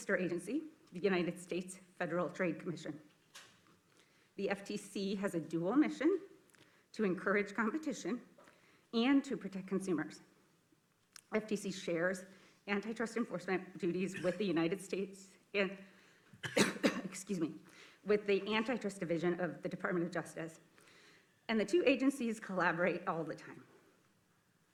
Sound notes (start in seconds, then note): 16.4 coughs